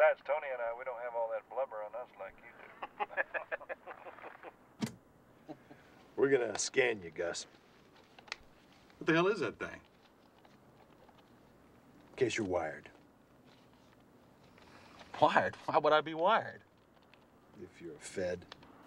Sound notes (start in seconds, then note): 2.6 laughing